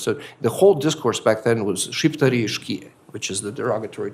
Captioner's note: non-english speech